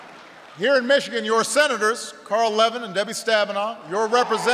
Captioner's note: applause; applause